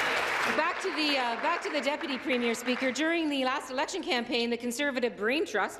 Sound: applause

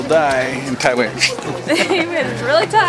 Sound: laugh

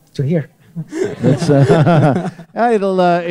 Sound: laughter

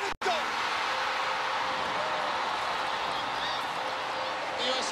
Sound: cheering

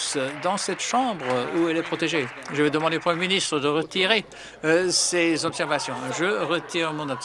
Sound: some Applause

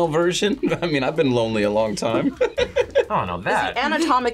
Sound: laughs

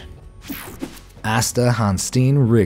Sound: image swooshing; image buzzing

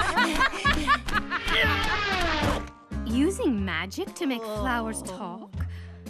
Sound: laughing

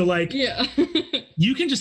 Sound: laughs

